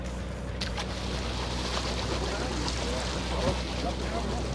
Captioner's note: water splashing